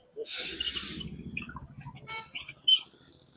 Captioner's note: snoring